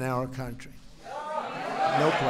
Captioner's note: applause